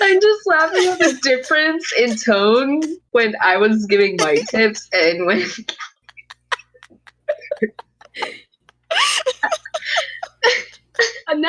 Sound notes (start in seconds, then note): 5.4 breathy laughing; 8.6 continued laughter; 8.8 wheeze; 10.7 giggling